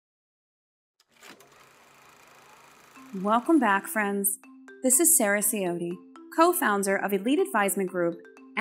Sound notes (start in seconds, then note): 1.0 film reel whirring